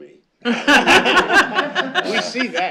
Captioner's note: laughter